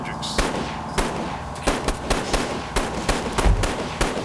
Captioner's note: gun bangs